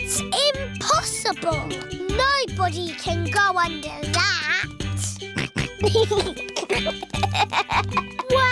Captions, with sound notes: It's impossible. Nobody can go under that. (SNORTS AND GIGGLES)